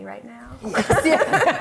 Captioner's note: laughter